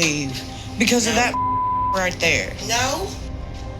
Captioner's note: beep